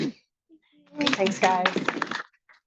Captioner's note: audience applauds